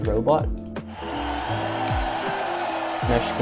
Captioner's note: cheering